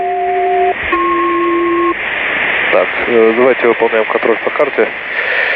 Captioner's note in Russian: звук работы селективной связи SELCAL